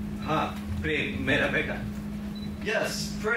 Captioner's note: speaks in foreign language